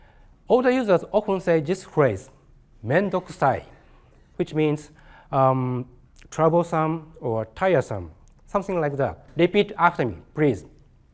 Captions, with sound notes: All the users often say this phrase, [SPEAKING JAPANESE] which means troublesome or tiresome, something like that. Repeat after me please.